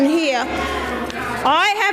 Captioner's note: audience mumbles